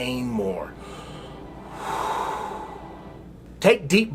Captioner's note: breathes deeply